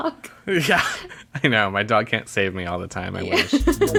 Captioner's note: laughs